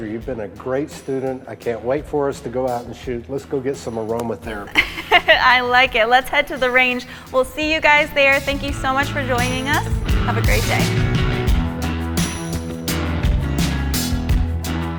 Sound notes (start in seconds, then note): 4.5 laughs; 11.6 bright upbeat music